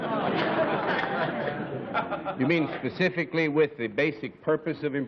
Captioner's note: laughter